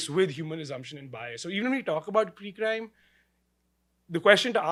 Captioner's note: none